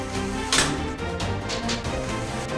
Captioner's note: metal thuds